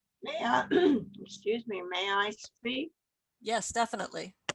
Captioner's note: clears throat